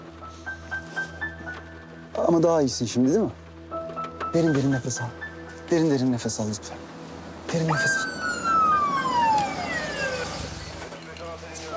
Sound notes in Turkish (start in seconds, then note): 7.6 Siren çalıyor